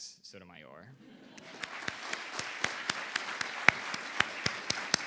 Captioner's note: audience applauding